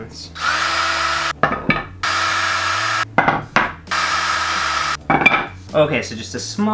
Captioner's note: drill Noises